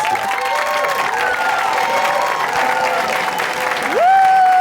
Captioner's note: audience cheers